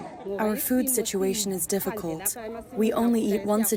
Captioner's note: through translator